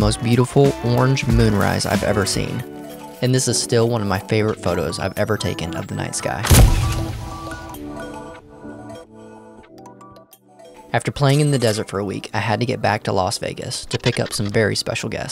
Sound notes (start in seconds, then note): 5.9 camera clicks; 5.9 gentle lilting music